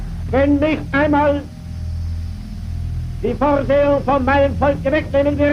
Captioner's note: speaking in a foreign language